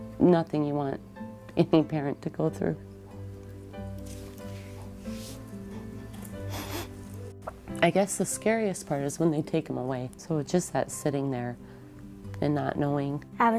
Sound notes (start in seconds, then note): 2.9 uplifting piano music; 6.5 sniffs